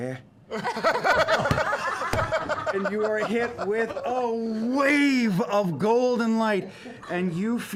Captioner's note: laughter